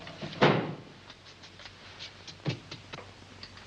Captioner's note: bang